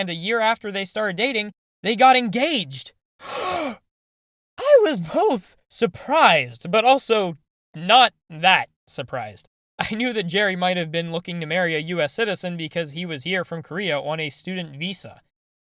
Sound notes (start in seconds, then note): 3.2 gasp